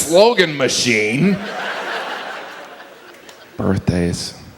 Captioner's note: audience laughs